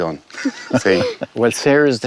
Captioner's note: laughter